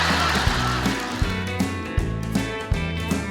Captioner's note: audience laughing; upbeat country music